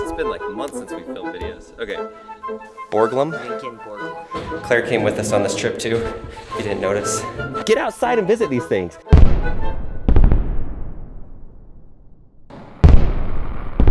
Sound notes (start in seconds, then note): 9.2 fireworks exploding